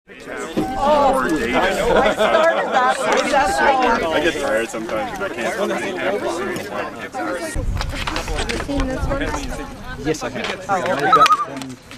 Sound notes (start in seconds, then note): 0.1 people chatting; 11.1 loon calls